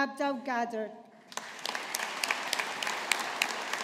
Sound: audience applauding

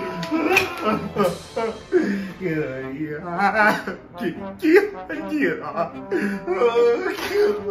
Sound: inconsolable sobbing

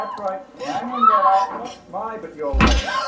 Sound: crying; whimpering

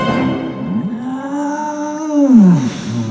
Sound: groaning

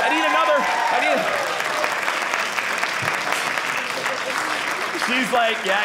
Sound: audience applauding

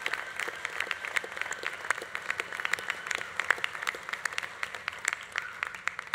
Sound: audience cheering continues; audience applause continues

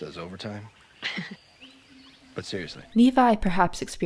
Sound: Ursula laughs

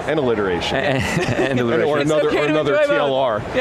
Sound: laughing

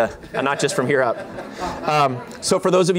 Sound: laughter

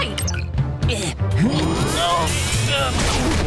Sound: grunting

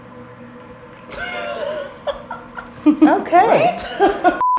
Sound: laughing

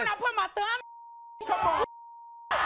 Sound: beep

